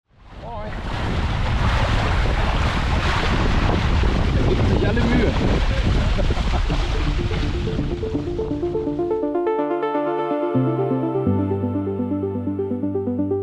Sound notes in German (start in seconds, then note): 5.7 Lachen